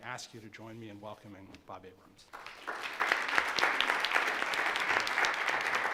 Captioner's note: all applauding